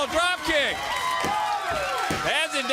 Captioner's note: crowd cheering